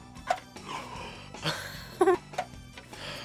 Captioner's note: gasps; React laughs